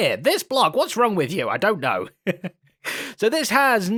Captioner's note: laughs